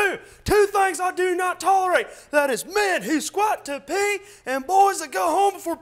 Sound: none

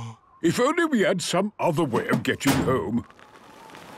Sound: clangs

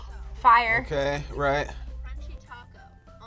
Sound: gasps

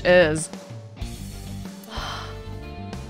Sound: sighs

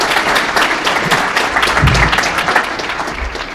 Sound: applause

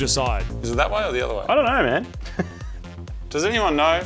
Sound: chuckles

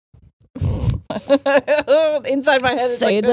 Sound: laughs

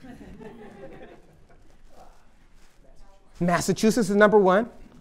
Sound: laughter

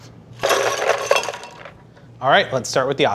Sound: ice rattling

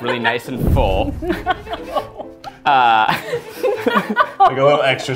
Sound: laughing

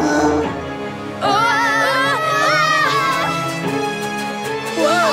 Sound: screaming

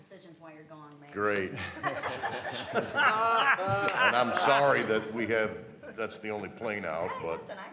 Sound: laughter

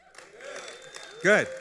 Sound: cheering

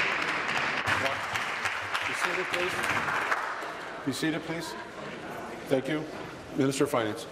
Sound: applause

